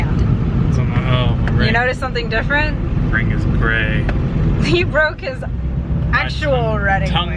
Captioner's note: mumbles